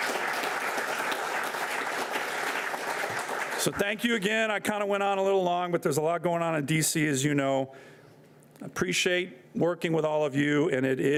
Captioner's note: applause